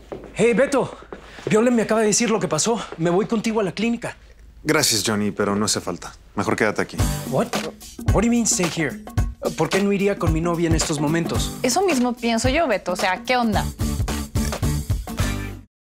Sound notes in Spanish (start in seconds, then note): 7.4 Habla inglés